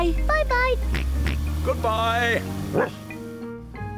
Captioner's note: oinks; barks